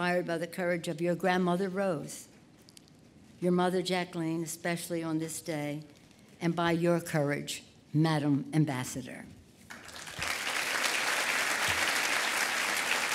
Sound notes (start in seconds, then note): 9.7 applause